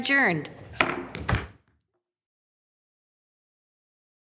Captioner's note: gavel pounding